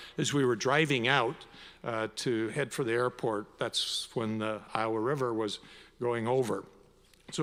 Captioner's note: none